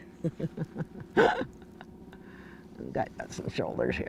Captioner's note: chuckling